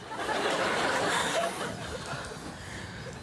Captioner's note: louder laughter